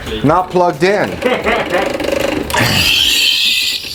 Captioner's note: laughing